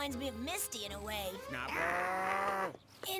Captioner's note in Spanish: gruñidos